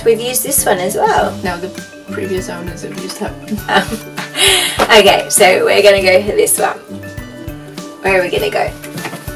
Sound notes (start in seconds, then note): 3.6 haha